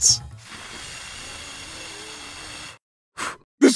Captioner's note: blowing sounds